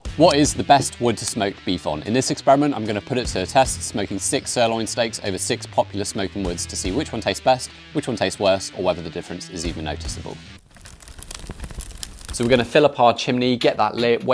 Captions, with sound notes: What is the best wood to smoke beef on? In this experiment, I'm gonna put it to the test smoking six sirloin steaks over six popular smoking woods to see which one tastes best, which one tastes worst, or whether the difference is even noticeable. (fire crackling) So we're gonna fill up our chimney, get that lit.